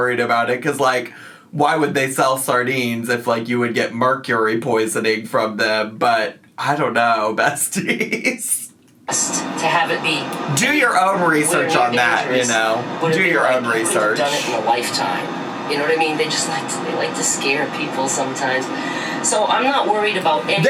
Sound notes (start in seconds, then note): 8.7 laughs